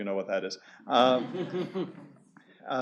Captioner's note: laughter